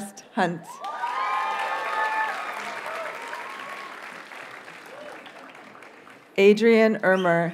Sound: audience cheers and applauds

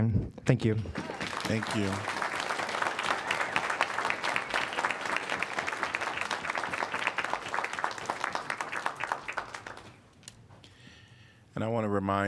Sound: applause

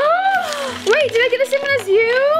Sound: gasps

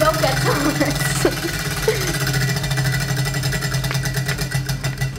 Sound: wheel clicking; laughter

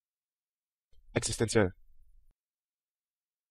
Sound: fast Pronunciation

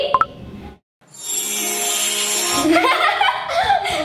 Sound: sparkling; laughing

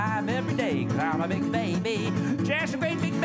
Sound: nasal voice

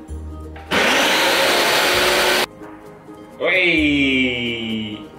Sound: blender whirring

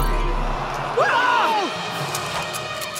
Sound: screaming

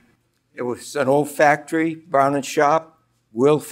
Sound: voiceover

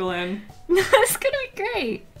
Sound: laughs

